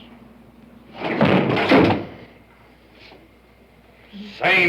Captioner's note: bang